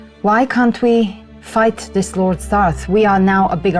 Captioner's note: none